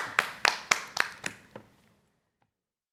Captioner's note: applause